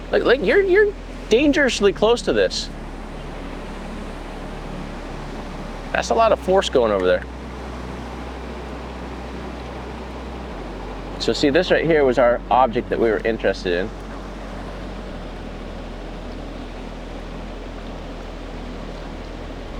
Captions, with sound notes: Like you're dangerously close to this. (water rushing) That's a lot of force going over there. So see this right here was our object that we were interested in. (water rushing) (somber music)